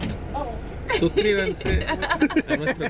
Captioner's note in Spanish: risas